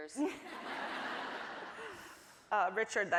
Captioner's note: audience laughing